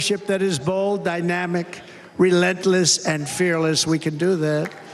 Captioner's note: cheers and applause